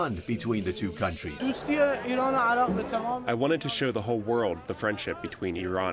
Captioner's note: through translator